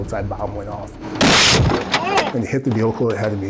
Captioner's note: bomb cracking